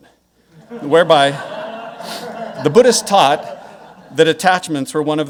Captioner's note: audience laughing